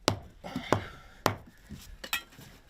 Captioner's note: hard groaning